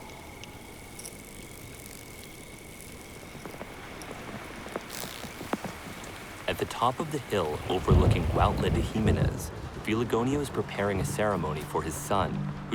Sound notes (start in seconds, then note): 2.9 rain falling